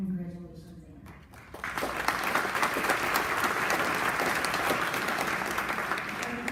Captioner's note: applause